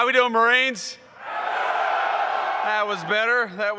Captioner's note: cheers